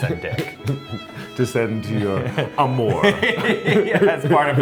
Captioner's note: Luke laughs; speaks in foreign language; Billy laughs